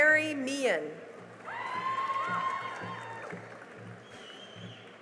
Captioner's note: cheering and applause